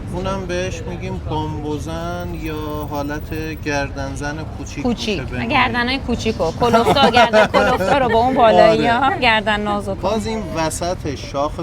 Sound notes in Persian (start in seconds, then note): 6.3 خنده